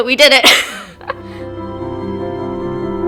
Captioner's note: laughs